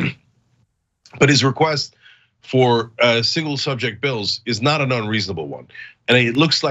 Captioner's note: cough